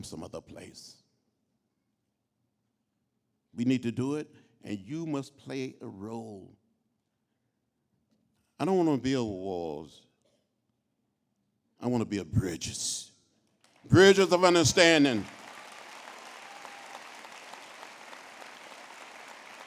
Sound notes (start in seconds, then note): 13.6 applause